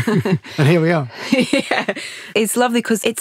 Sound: laughs; both laugh

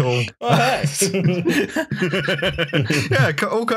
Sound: laughter

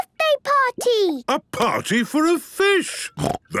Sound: snorting

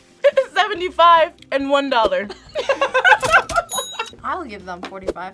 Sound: laughs

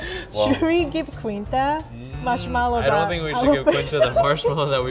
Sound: laughs

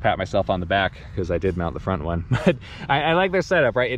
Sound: laughs

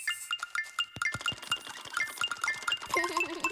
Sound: giggles

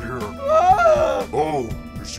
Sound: fluttershy screams

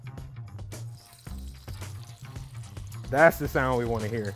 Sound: oil sizzling

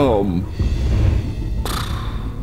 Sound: blows air

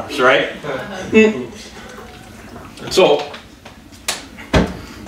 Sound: audience chuckles

